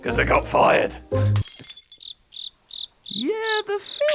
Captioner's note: glass shatters, crickets chirp